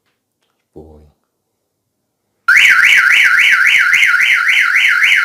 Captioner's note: alarm goes off